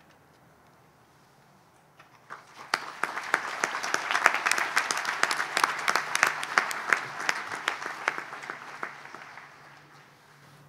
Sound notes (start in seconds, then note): 2.2 audience applauds